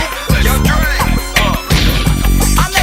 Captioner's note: bang